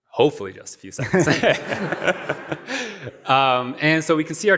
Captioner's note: laughter